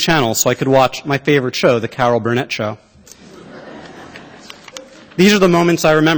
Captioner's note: laughter